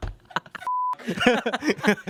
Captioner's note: beep; everyone laughs